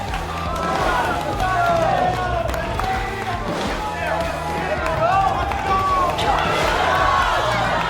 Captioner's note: Jesse slams the mat loudly